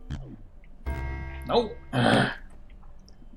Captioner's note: growls